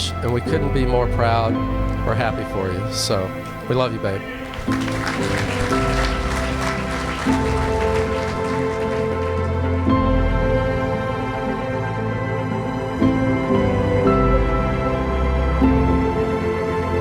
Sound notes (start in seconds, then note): 3.6 applause; 8.0 orchestral music